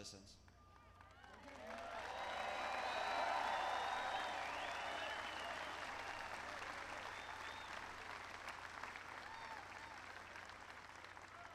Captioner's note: applause